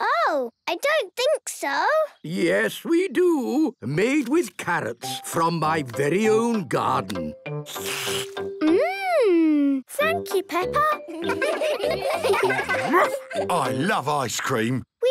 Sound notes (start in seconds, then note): 7.6 slurps